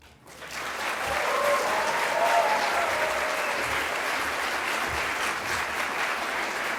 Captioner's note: applause